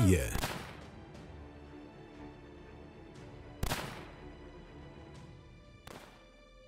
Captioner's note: suspenseful music; gun firing